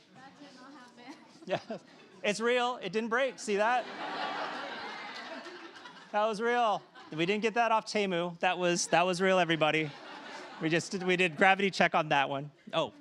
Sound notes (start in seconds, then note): 3.5 laughter